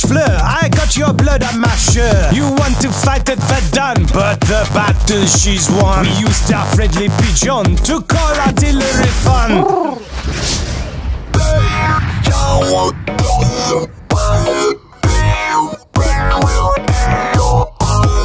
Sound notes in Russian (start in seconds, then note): 11.4 Взрыв